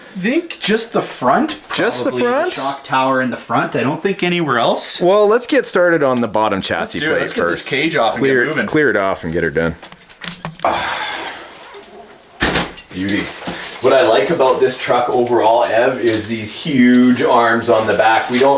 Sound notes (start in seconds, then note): 10.6 sighing; 12.4 thumps